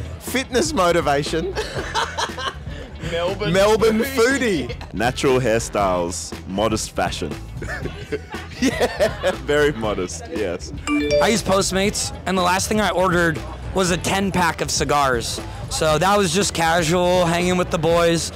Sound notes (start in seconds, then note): 1.6 man laughing; 10.8 phone chiming